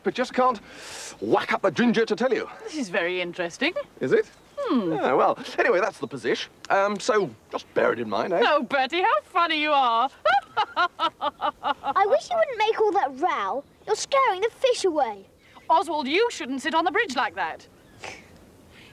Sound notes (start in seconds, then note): 10.2 laughs